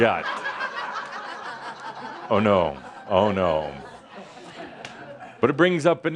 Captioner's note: some laughter